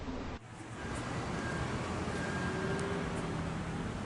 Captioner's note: street ambience